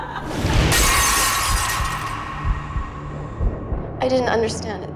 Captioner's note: Paige laughing; dramatic music; glass shatters